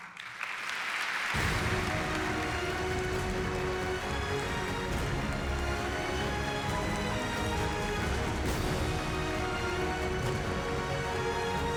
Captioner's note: applause